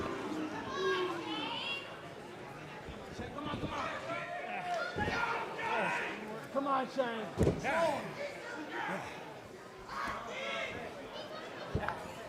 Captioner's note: crowd chatter